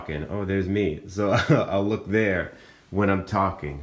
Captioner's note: laughs